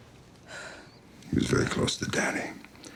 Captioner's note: Adele sighs